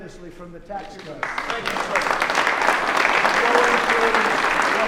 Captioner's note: applause